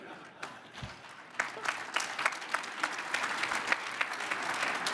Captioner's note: crowd applauds